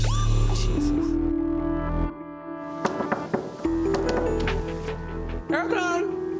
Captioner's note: hand knocking; tense electronic music